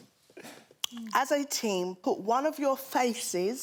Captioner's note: clears throat